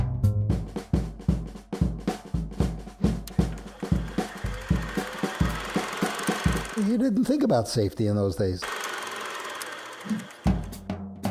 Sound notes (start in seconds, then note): 3.2 projector whirring